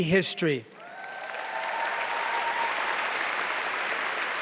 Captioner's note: cheering, applause